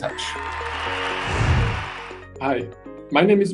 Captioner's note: cheering